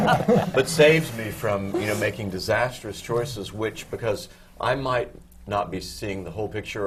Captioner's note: laughter